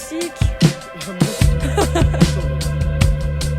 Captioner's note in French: Rire